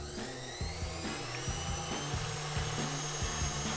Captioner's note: machine whirring